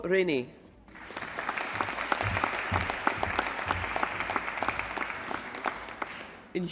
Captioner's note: applause